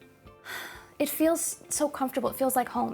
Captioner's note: sighs